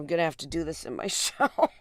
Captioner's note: laughter